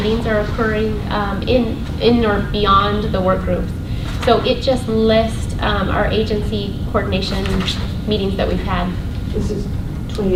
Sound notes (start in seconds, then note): none